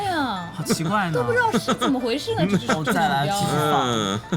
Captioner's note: bitter laughing